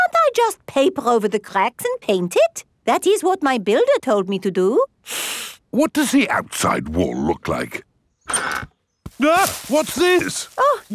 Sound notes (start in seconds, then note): 5.0 inhales sharply; 9.2 exclaims